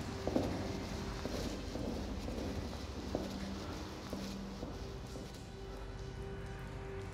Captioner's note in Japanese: 遠ざかってゆく足音; 足音